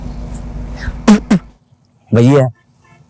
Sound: spitting; laughing

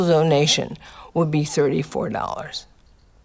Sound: none

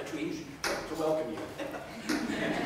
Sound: chuckles; crowd laughter

